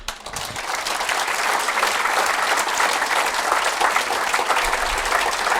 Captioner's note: applause